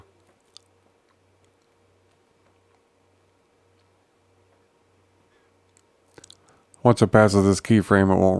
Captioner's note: silence